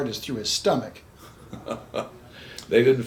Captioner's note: chuckles